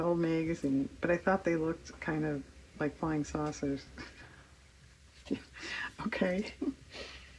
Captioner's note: laughs